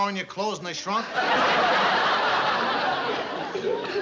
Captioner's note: laughter